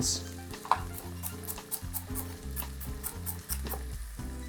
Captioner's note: chopping fennel